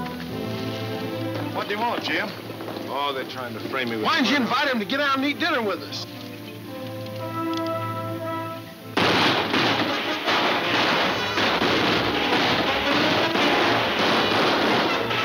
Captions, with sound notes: - What did he want, Jim? - Oh, they're trying to frame me with-- - Why didn't you invite him to get down and eat dinner with us? (guns banging) (dramatic music)